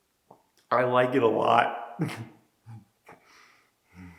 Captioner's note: chuckles